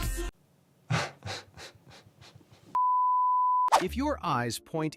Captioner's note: laughing